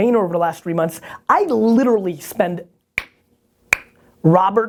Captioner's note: clicking sound made with mouth